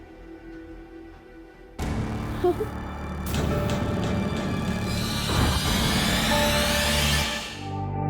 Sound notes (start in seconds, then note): 2.4 giggles; 3.8 dramatic music